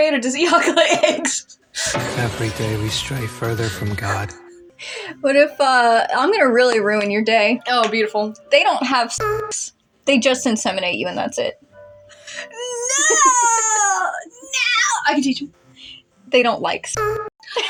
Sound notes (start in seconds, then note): 0.4 laughing; 12.4 laugh